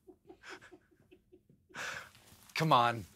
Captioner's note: laughter